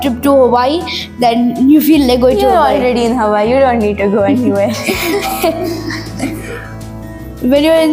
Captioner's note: laughs